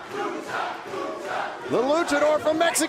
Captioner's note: fans chanting